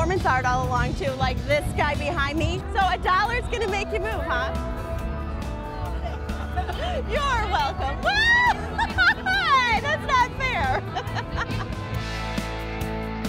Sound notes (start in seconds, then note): 5.7 laughs